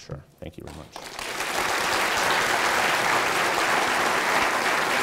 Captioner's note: audience applauding